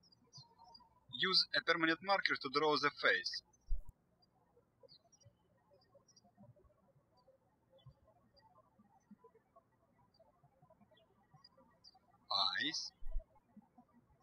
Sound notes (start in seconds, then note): 4.1 birds chirping